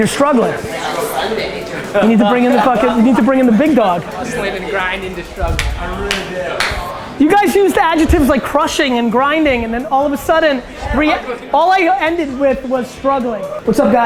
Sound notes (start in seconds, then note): 4.4 group chatter